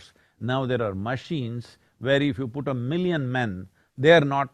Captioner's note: none